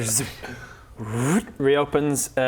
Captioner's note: vrrrth